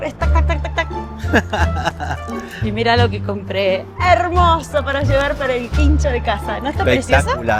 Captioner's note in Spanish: risas